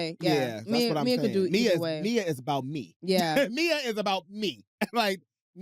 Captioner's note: laughs